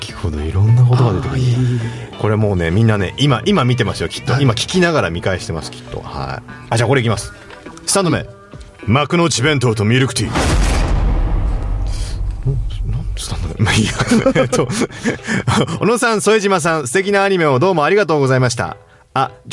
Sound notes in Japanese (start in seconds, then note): 13.8 笑い